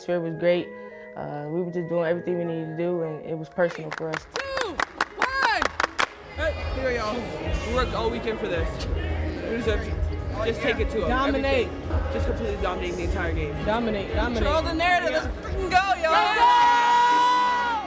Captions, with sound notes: was great. We were just doing everything we needed to do, and it was personal for us. [clapping] – Three, two, one [clapping stops] We worked all weekend for this. Just take it to them. –Dominate. – Just completely dominate the entire game. – Dominate. Dominate. – Control the narratives. Let's go, y'all!